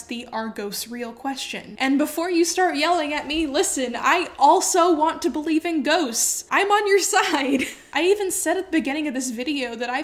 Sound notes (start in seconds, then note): 7.5 laughs